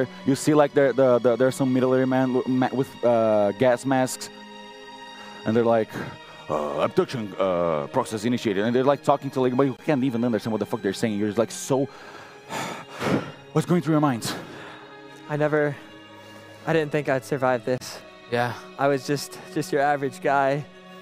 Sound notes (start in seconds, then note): 12.6 sigh